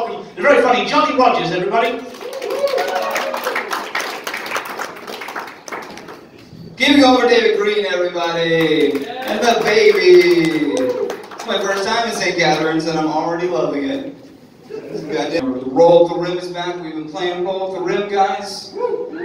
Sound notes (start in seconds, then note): 2.1 audience applauding and cheering; 8.2 audience applauding; 14.7 audience chuckling